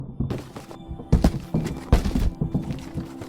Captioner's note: soft banging